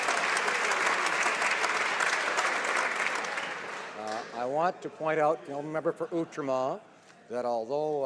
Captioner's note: some Applause